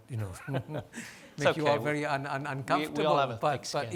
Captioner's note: laughing